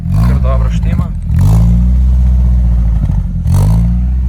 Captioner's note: More xsara fart exhaust sounds